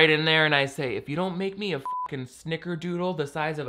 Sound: beep

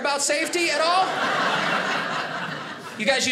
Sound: audience laughing

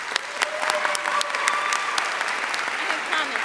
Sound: audience cheering and applauding

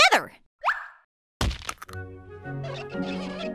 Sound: thump; whistle; squeak

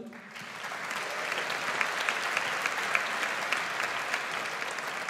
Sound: audience applauds

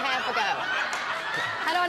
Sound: audience laughs, applauds

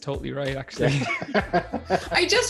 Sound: laughter

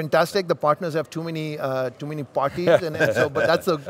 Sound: interviewers laughing

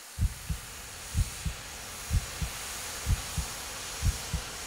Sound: heart beating

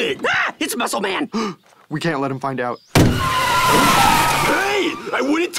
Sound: gasps

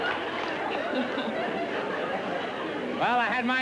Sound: laughter

